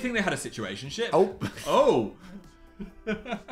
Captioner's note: chuckles